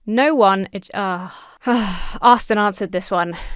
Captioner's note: sighs